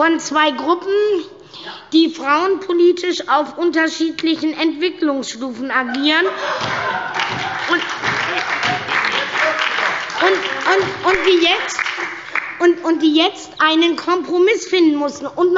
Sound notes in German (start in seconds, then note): 5.9 Heiterkeit und Beifall bei der SPD und der LINKEN